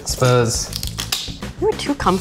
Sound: bone cracking

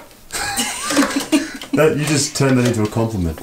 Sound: both laugh

